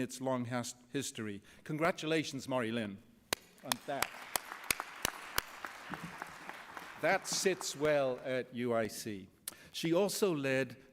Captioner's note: applause